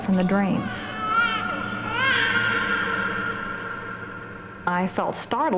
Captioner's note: baby crying